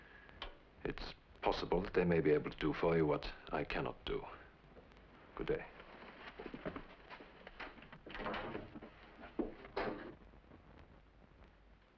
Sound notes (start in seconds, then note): 7.9 door open then closes